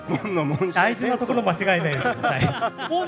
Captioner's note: laugh